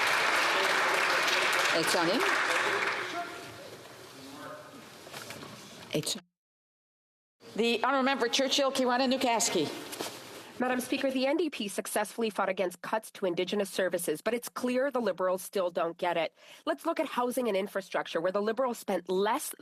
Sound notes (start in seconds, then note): 2.8 some Applause